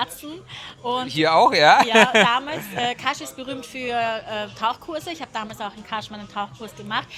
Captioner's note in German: gelächter